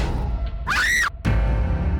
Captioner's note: dramatic musical score; Abby screams; dramatic music